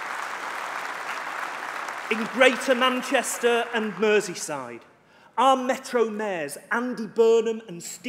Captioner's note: applause